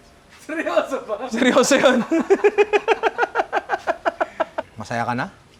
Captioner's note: laughter